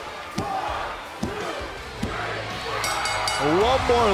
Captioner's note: bell ringing